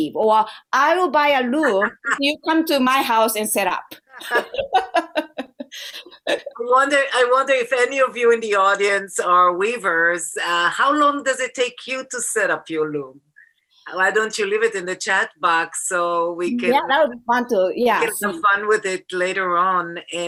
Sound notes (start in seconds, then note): 4.1 laughter